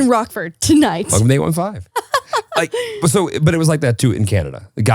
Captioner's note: laughs